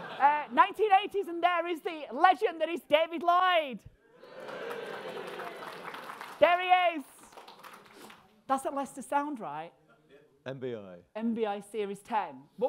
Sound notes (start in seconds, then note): 4.3 audience cheers